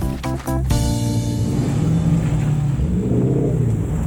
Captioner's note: engines revving